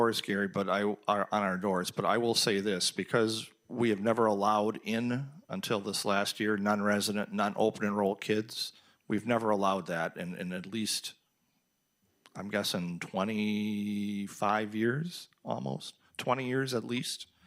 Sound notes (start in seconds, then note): none